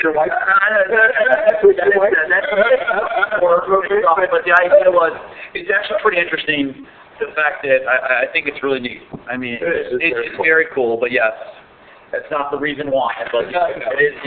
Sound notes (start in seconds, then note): 0.8 laughing